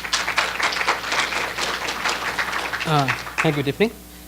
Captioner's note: applause